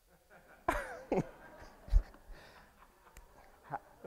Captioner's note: all laugh